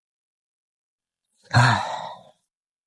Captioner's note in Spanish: Suspiro